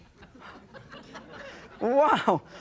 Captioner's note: laughter